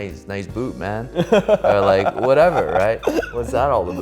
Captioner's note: extended laughter